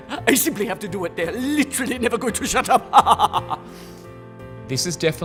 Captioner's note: chuckles